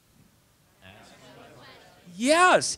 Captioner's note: audience response